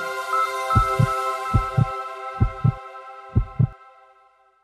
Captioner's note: calming music; heart beating